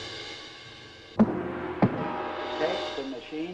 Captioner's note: thumping